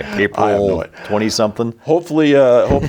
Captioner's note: laughs